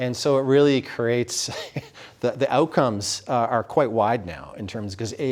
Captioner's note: chuckles